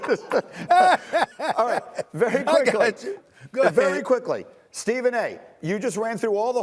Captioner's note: laughter